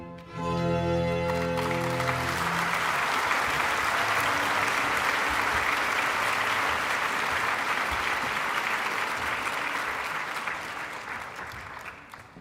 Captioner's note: applause